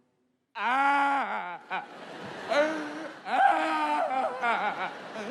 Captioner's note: comedian mimics child wailing